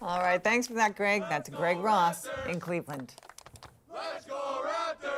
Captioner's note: applause